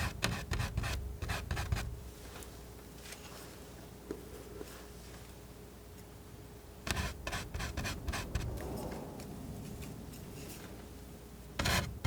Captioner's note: scratching